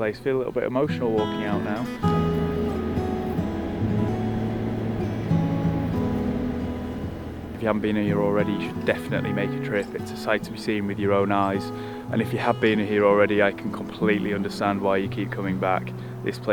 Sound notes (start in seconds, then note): 1.6 car whooshing; 3.1 melodic guitar music